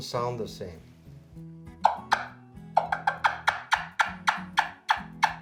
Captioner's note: wing bone turkey call clucking